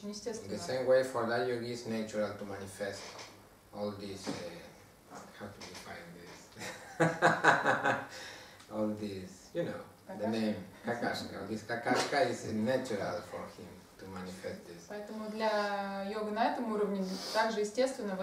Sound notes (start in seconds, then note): 6.6 hahaha